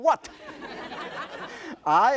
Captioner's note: audience laughter